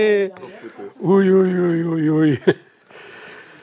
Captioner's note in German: mit tiefer Stimme